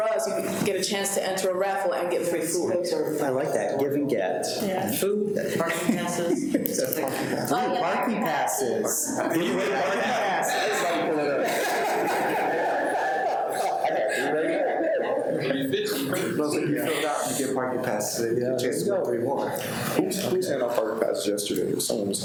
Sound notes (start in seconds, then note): 9.4 speakers drown out background noise; 12.4 people laughing